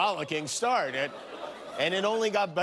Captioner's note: laughter